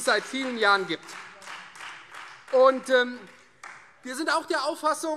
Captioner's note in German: Beifall Freie Demokraten